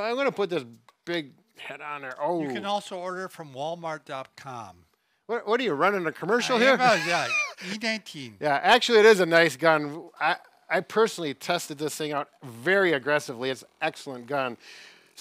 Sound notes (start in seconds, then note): 6.5 chuckles